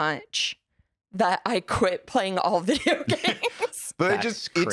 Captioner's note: laughs